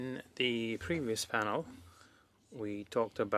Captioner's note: speaking French